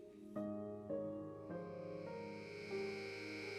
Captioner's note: buzzer